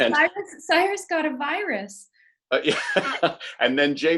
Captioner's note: laughs